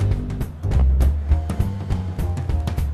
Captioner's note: sighs